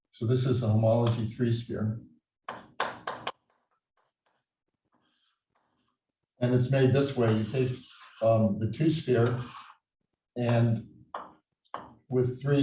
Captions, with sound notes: So this a homology 3-sphere. (chalkboard tapping loudly) And it's made this way. You take the 2-sphere and with three orbifold points